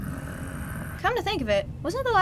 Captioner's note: Batman growls